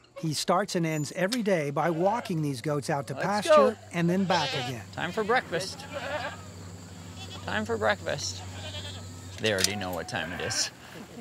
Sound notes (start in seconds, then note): 5.8 goats bleat